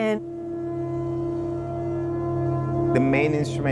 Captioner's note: gong sounds